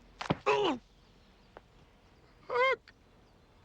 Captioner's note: Jim groans; head thuds